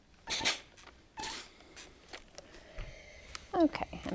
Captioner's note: iron clanks